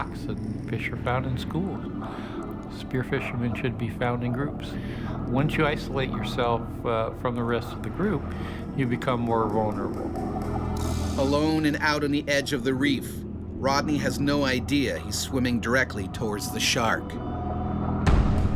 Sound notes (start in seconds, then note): 11.2 voiceover